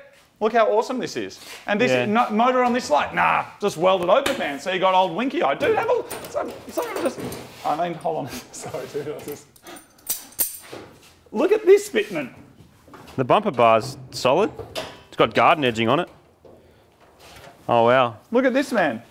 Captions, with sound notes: Look how awesome this is. -Yeah. -And this... motor on this light? Nah! Just weld it open man, so you got old winky eye. Dude, have a -[clips rattling] -Somebody just... I mean, hold on Sorry dude, I was just... [clips rattling] Look at this fitment! -The bumper bar's solid. -[bonnet catch rattles] It's got garden edging on it. -Oh, wow. -Look at this, man.